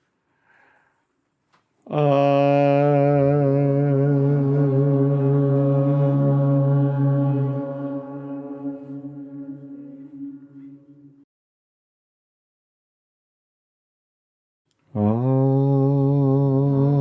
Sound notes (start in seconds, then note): 0.8 chanting